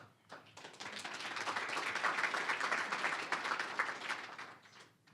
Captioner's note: applause